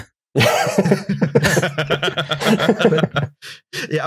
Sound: laughter

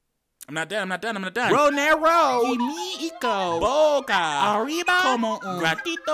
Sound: man speaking gibberish

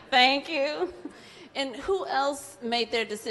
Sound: laughs

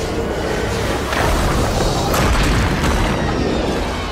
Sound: loud alien noises

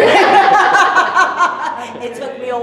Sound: laughter

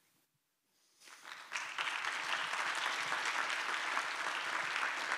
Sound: applause

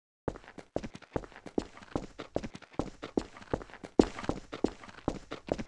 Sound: concrete Footsteps

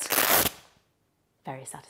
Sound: belt ripping

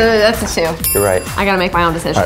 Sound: dinging

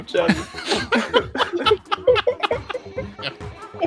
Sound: laughing; pseudo weeping; laughing

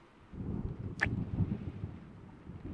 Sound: kiss

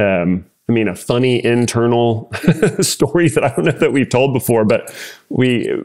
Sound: laugh

